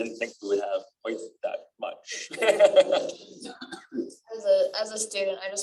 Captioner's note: laughter